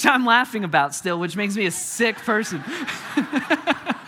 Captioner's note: congregation laughing; chuckling